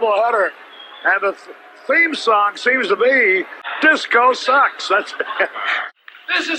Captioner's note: laughs